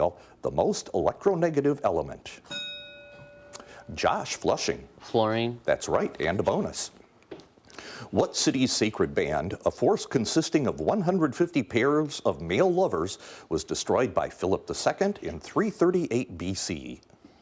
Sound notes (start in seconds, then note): 2.4 bell dinging